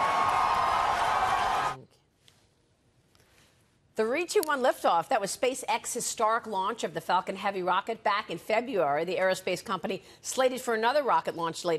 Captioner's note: cheering and applause